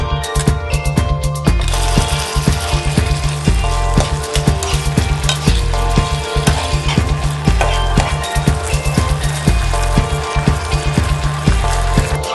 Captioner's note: stir-fry beef, sizzling sound in the background